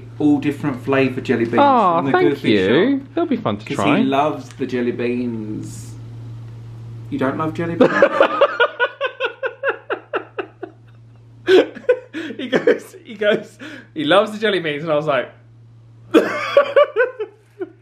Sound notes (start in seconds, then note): 7.8 laughs; 16.1 laughs